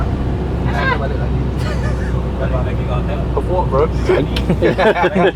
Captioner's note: snickering; laughing